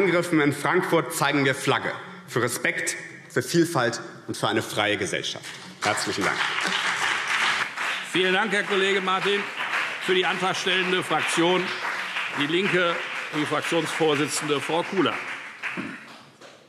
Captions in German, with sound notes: Angriffen in Frankfurt zeigen wir Flagge für Respekt, für Vielfalt und für eine freie Gesellschaft. - Herzlichen Dank. [Beifall BÜNDNIS 90/DIE GRÜNEN] Vielen Dank, Herr Kollege Martin. - Für die antragstellende Fraktion DIE LINKE spricht nun die Fraktionsvorsitzende, Frau Kula.